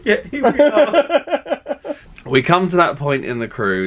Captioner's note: both laughing